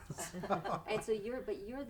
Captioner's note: laughs